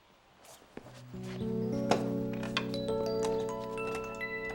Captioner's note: magical sound